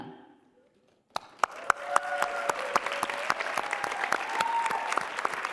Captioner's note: applause and cheering